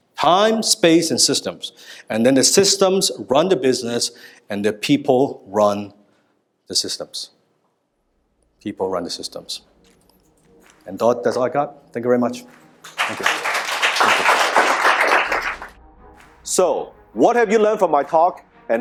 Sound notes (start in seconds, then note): 12.8 applause